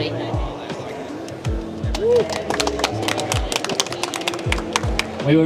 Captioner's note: clapping